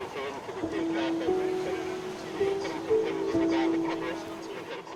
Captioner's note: radio chatter sounds